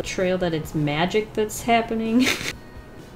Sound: laughs

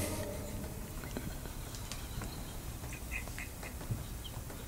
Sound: suspenseful music; quietly laughing

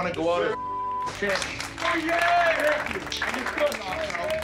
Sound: team clapping and cheering

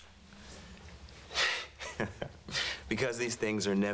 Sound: chuckling

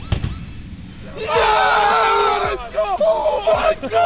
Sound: electronic beat; cheering

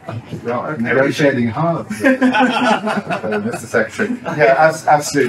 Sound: laughter

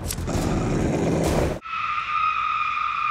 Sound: Malia growls; Lydia screaming

